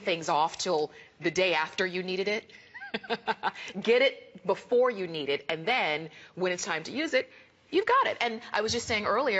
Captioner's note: laughter